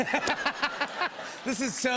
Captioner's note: laughter